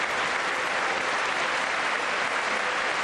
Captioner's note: applause